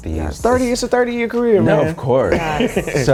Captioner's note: laughs